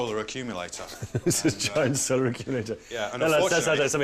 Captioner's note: laughing